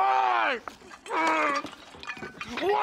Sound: grunts

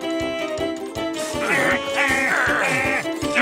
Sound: groaning

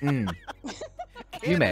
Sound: group laughing

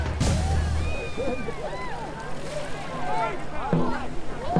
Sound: cheering

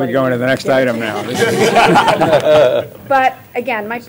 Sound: laughter

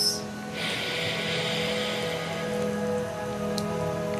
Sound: inhales deeply

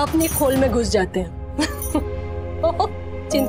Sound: chuckles

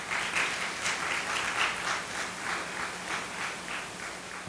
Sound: audience applauding

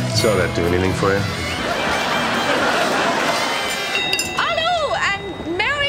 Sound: audience laughing

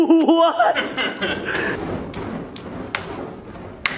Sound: laughs

